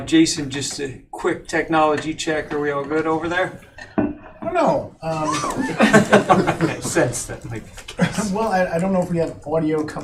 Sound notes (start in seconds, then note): 5.2 laughter